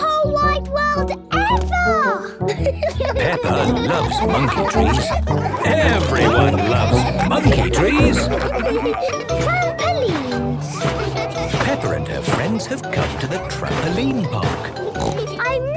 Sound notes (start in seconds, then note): 2.2 laughing; 8.3 all laughing